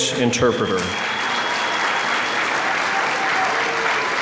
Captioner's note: applause